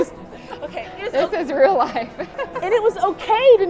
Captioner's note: laughs